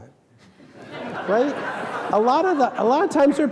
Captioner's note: audience laughing